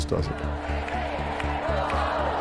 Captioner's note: crowd